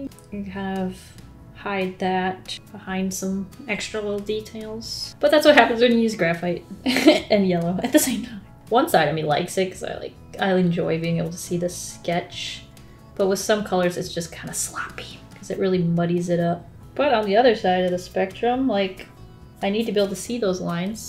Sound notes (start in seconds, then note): 6.7 laughs